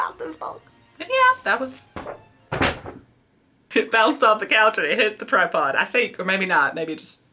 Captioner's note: books thuds close to camera